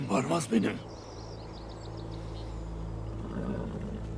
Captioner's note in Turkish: Kuş cıvıltısı sesleri; At nalı sesi